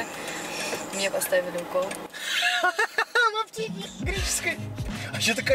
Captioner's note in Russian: смех